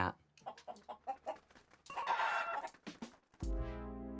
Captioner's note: chickens clucking; pleasant music